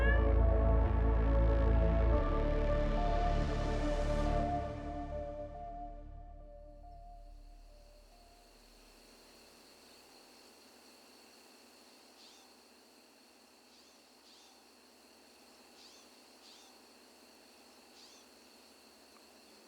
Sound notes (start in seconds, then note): 0.0 cat meows; 7.4 birds singing; 7.4 cicadas chirping